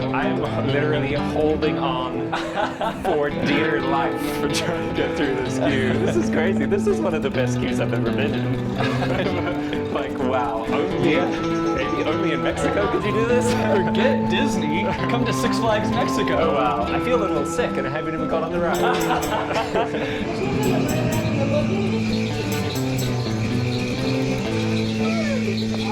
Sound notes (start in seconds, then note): 18.7 laughter; 20.9 western music plays